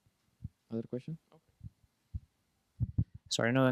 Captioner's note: voiceover